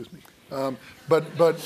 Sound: laughter

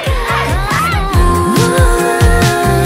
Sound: woo, woo

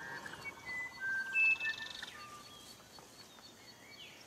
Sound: birds singing

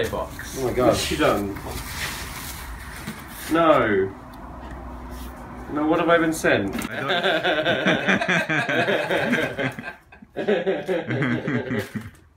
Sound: laughter

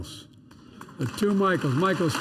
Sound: applause

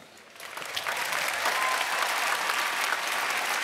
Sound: applause

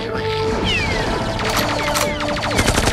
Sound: in Clay Speech; gunfire, rapid gunfire; gunfire

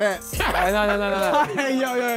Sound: Sidemen laughing

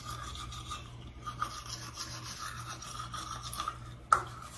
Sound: toothpaste swishing

